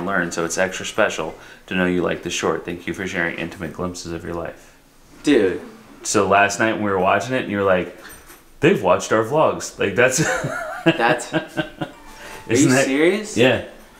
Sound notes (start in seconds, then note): 10.2 laughs